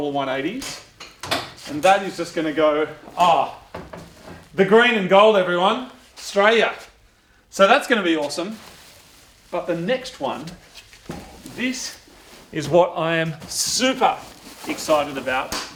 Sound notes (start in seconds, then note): 0.7 boot catch releases